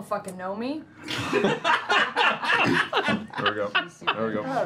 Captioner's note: laughter